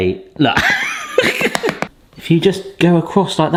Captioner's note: laughing